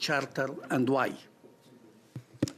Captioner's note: speaking French